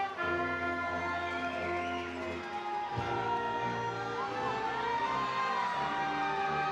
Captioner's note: attendees cheering; triumphant music